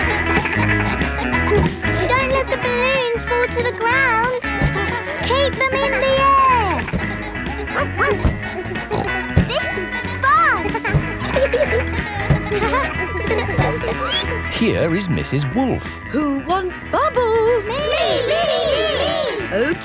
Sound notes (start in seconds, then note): 6.8 snorts; 7.7 barks